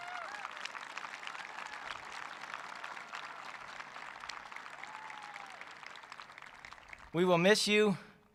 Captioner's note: applause